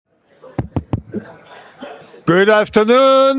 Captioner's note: students chattering; mic knocking